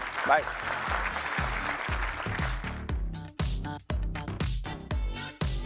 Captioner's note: applause